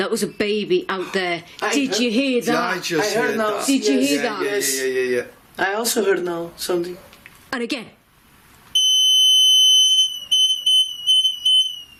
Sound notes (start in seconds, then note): 8.8 beeping